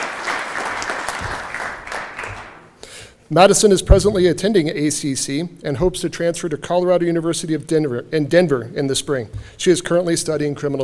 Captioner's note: cheering and Applause